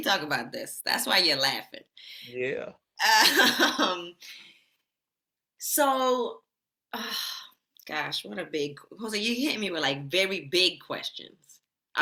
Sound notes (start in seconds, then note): 6.1 sighs